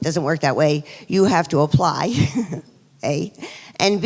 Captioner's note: laughs